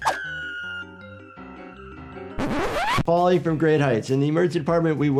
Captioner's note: screaming